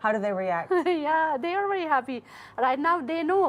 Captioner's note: laughter